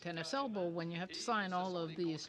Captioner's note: speaking French